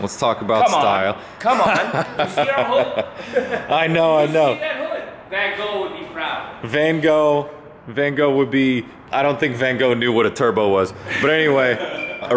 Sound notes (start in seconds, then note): 1.4 laughs